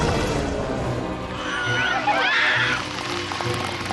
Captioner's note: panicked screams